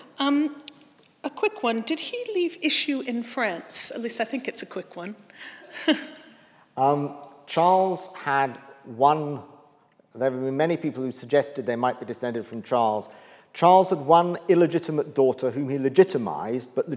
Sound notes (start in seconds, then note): 5.7 chuckles